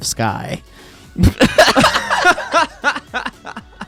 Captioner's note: laughs